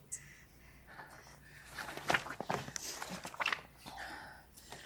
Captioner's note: Rainey breathing deeply